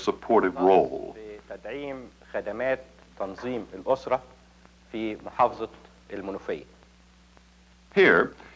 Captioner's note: speaking Arabic